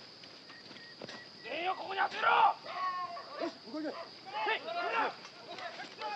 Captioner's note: shouting in Japanese